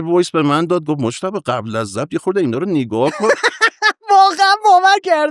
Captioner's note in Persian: خنده